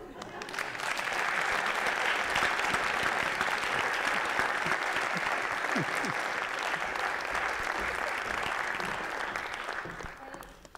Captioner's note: applause